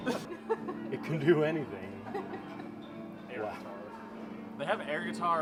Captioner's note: deep Voice